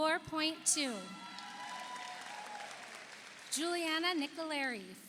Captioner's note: audience cheers; audience applauds